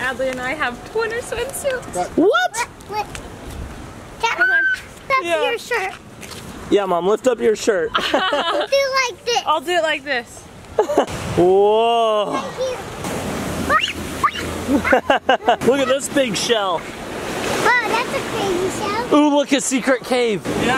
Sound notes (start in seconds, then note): 7.9 they laugh